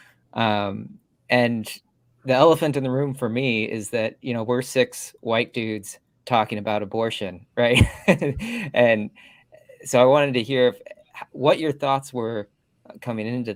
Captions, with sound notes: room for me is that you know, we're six white dudes talking about abortion. Right. [laughter] And so I wanted to hear what your thoughts were coming into this. Why do you